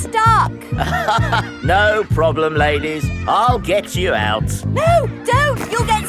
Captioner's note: chuckles